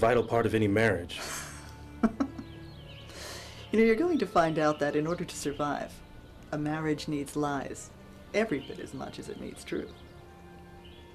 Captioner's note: chuckle